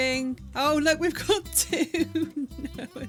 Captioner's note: laughing